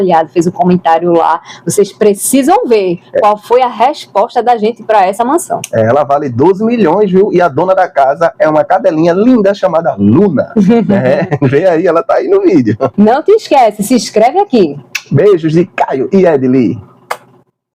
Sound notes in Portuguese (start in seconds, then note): 10.6 risadas